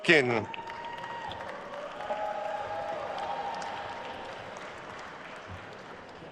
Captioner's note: attendees cheering and applauding